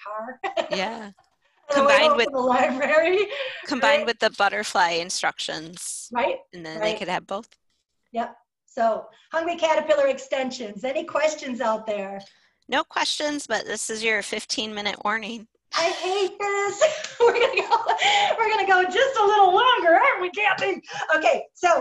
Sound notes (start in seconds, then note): 15.8 laughing